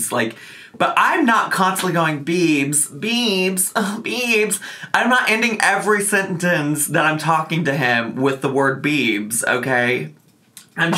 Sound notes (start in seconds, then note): none